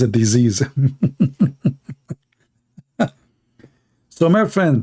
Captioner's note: Ketawa